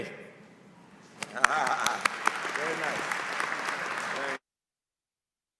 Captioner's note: applause